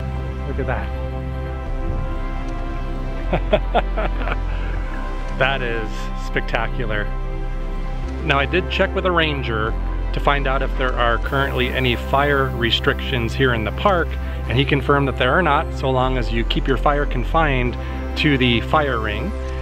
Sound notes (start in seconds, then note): 3.2 laughter